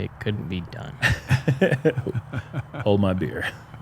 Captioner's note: laughter